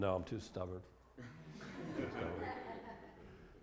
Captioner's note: laughter